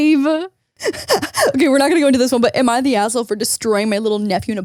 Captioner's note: laughs